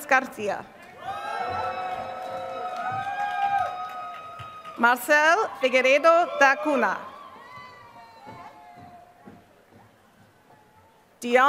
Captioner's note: applause